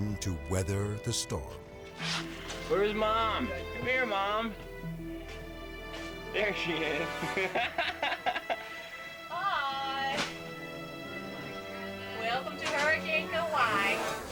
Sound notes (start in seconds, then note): 7.0 laughs